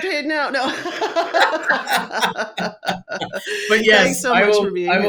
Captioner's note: both laughing